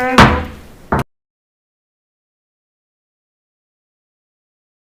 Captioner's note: gavel slams